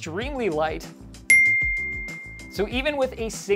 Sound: loud bell

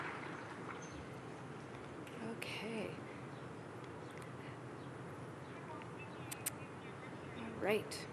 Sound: cheers and applause

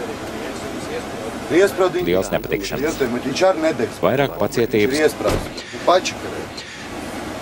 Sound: cursing

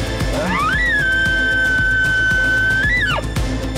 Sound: caller bugling

